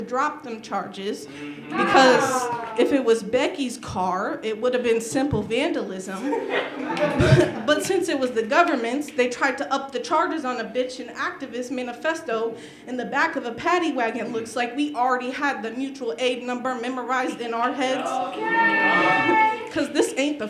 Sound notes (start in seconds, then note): 6.1 laughter